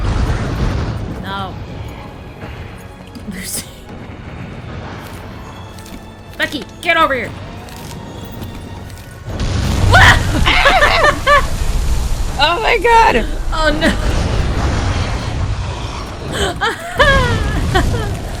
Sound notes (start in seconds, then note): 9.8 screams; 10.5 cackles; 16.3 still laughing